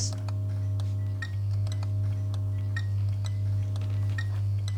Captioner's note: electrical buzzing